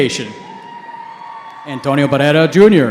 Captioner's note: cheering